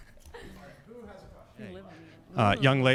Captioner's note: laughs